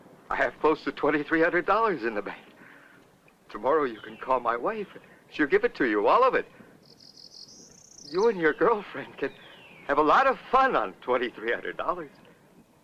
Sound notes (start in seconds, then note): none